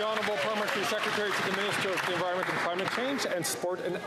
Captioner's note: some Applause